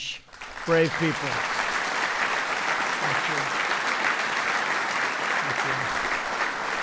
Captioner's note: applause